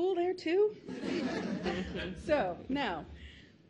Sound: laughs

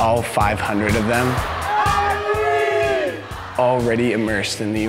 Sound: cheering

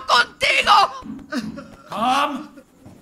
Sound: footsteps acending

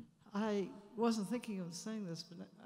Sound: voiceover

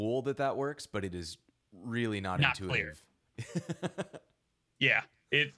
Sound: laughing

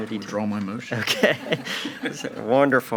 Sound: all laughing

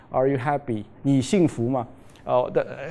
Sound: speaking chinese

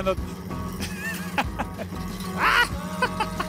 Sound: laughs

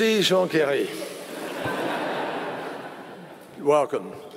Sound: laughter

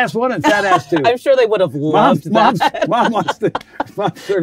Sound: laughs

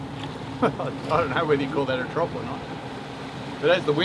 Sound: laughs

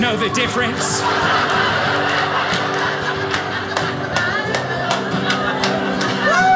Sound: audience laughing

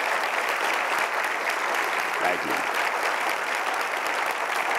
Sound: crowd applauding

